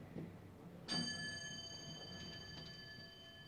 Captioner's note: elevator bell rings